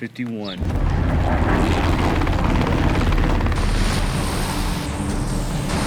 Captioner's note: helicopter blades whirring